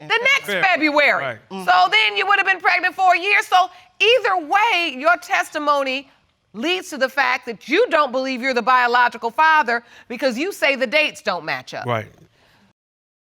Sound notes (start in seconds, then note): none